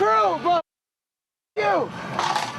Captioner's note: muted